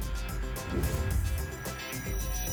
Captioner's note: whoosh